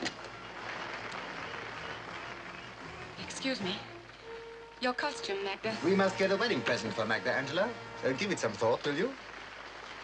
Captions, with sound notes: (audience applauding) - Excuse me. Your costume, Magda. - We must get a wedding present for Magda, Angela, so give it some thought, will you?